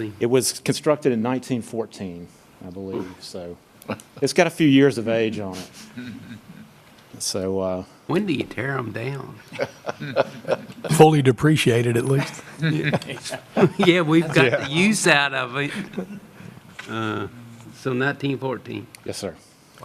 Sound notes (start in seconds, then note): 5.9 laughter; 9.4 laughing